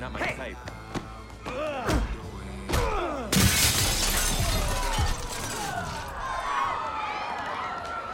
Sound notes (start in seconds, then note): 3.3 fighting sounds, shattering glass sounds; 4.4 people shouting